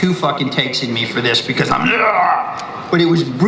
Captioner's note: roars